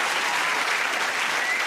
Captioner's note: cheers and applause